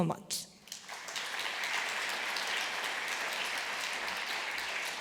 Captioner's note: applause